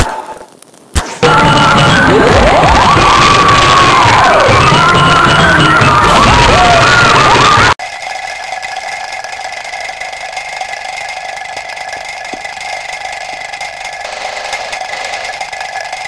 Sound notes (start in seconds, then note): 6.7 explosion; 8.4 shells falling; 14.4 spraypaint